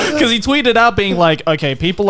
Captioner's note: laughing